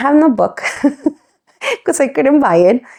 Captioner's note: laughs